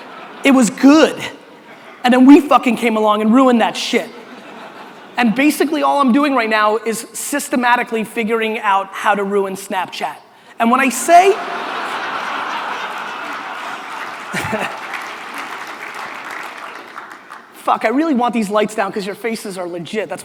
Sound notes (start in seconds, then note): 11.3 audience laughter and applause